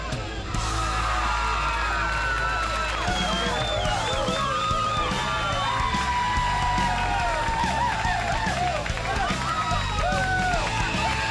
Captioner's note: crowd cheering